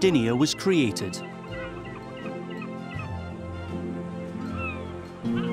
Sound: seagulls cry

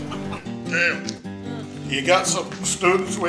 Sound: sleepy grunt

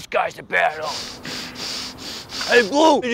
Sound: nose quickly sniffing

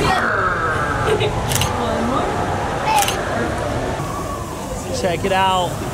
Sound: camera clicks

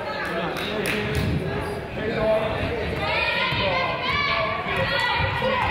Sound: crowd chatters

